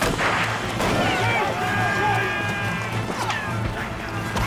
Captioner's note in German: Gewehrfeuer; Soldaten schreien